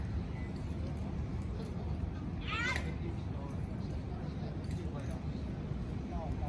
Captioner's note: vague sounds of children playing and adults talking